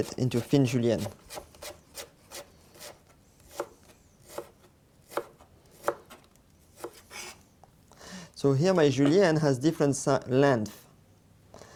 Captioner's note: cutting sounds